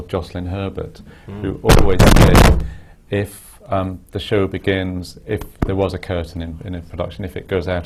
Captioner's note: static